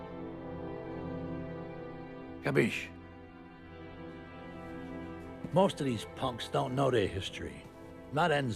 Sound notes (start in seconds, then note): 2.5 speaking foreign language